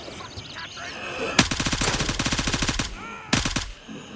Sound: gunfire; wheezing; gunshot

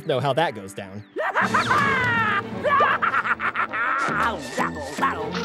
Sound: laughing

